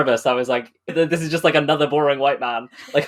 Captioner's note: laughing